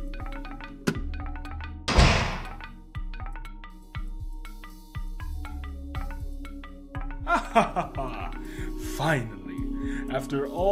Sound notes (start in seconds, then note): 7.3 laughing